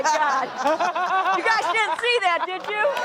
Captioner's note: audience laughing